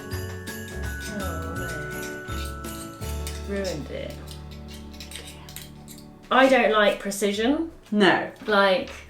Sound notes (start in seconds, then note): 1.5 quietly